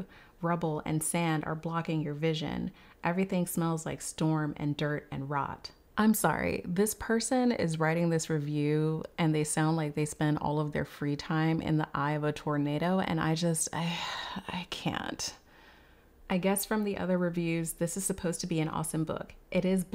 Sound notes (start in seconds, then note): 13.8 sighs